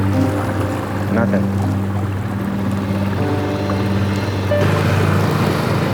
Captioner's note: water splashing